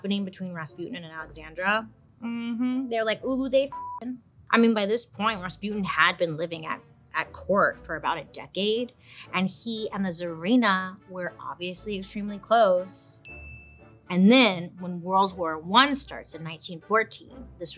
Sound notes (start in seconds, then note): 3.7 beeps; 13.2 bell dings